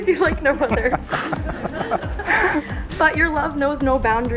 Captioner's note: laughing